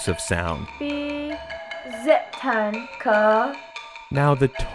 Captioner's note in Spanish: personas pronunciando sonidos de una silaba